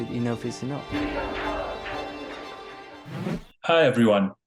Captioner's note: people chanting